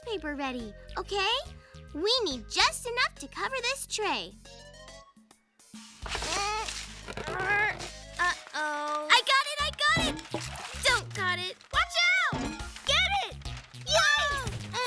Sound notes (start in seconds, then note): 5.7 grunting; 13.9 screams